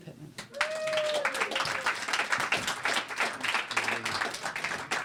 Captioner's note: applause